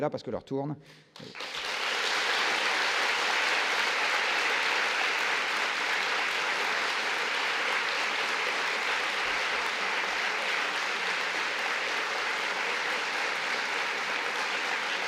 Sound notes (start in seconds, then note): 4.4 applause